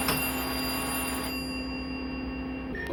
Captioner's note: bell ringing